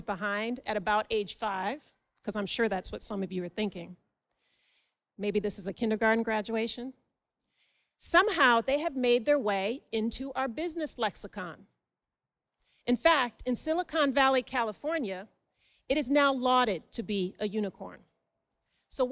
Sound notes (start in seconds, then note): none